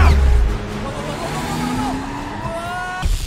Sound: sonic shouts in fear

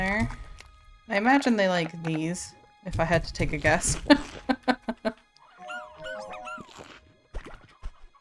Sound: laughs

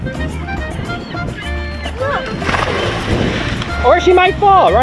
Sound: water splashing

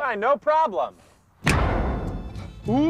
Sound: loud, short bang again

